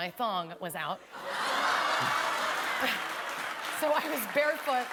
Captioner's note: laughter